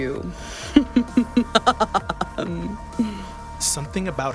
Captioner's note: Señora Miranda laughs